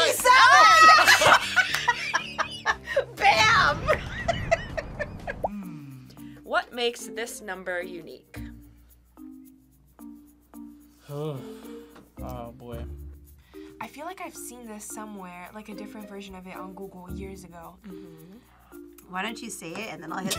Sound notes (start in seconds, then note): 0.3 both laugh; 1.2 bell rings; 4.3 laughs